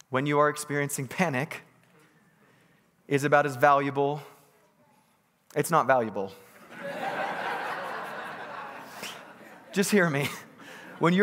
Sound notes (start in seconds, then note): 6.5 congregants laughing